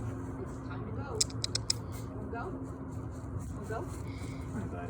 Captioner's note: clicking